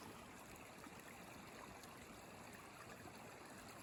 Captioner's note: water trickling